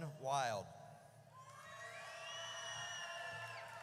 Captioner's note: audience cheers